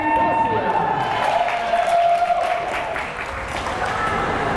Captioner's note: crowd cheering